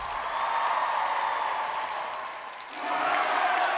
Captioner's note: cheering and applause; cameras shutters clicking